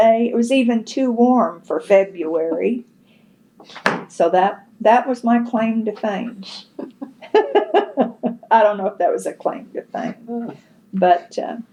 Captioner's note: laughs